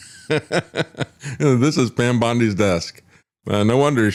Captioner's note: laughs